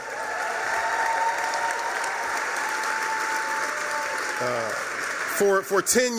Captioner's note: cheering, applause